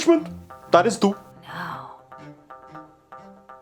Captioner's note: whispering